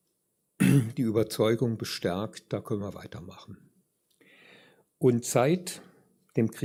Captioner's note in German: räuspern